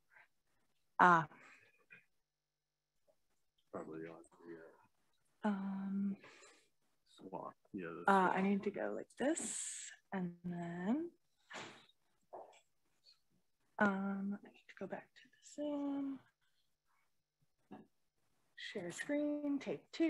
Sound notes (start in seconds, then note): 4.8 faintly speaking